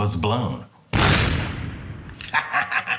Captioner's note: explosion; chortling